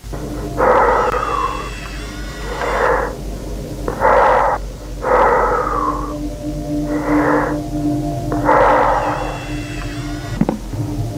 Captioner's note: heavy Breathing